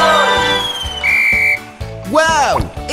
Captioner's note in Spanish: Sonido de silbato